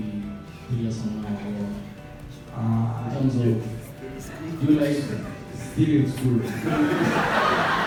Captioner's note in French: rires